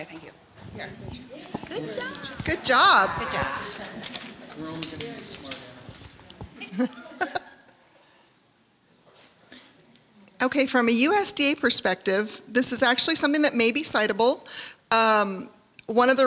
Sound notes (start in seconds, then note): 9.2 chuckle